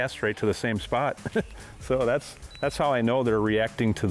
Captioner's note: laughs